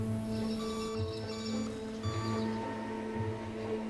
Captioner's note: forklift beeping